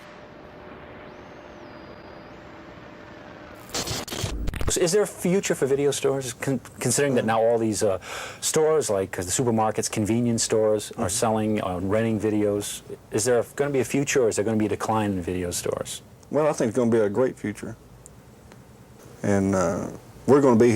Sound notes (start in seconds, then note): 3.7 static sounds